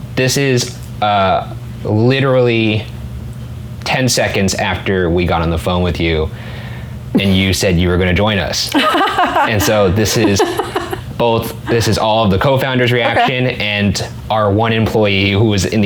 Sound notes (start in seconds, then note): 8.7 laughs